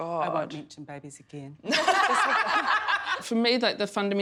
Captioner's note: laughing hysterically